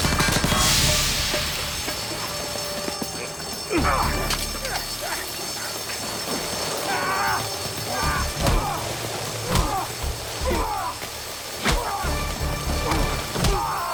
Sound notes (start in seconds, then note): 3.7 both grunting